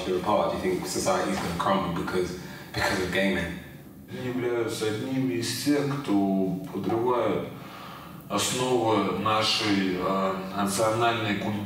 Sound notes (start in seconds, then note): 4.0 speaking in foreign language